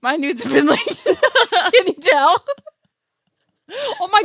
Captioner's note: laughs